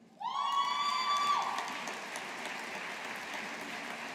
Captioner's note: audience applauding